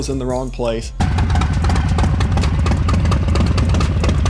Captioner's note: engine hums